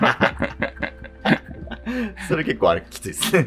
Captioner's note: laughing